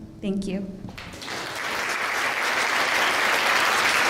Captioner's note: applause